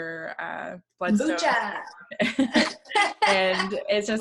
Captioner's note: laughs